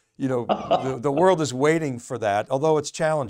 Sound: laughs

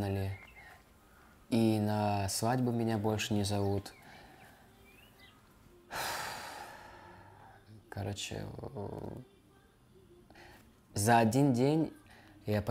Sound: speaking russian

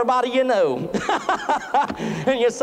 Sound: boisterous laughter

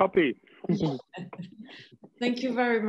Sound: laughing

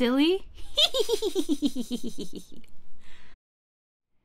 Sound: giggling

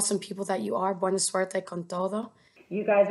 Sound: foreign language

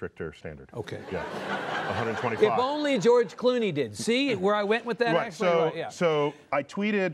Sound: laughter

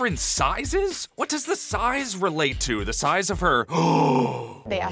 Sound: gasp

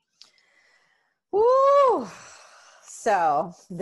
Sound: sighs

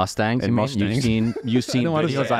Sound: laughing

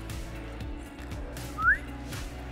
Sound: whistle

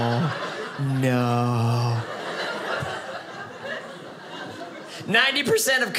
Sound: audience laughing

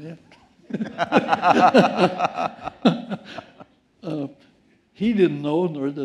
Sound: laughter

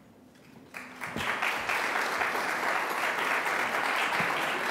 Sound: applause

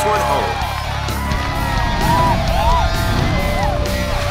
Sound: cheers

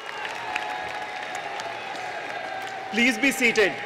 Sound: cheering and applause

